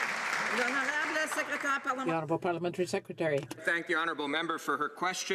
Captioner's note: some Applause